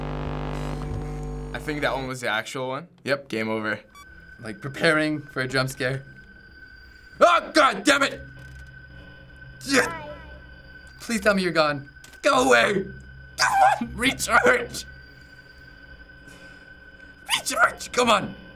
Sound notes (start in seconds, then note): 13.3 shrilly